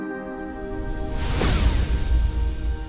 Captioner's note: blasting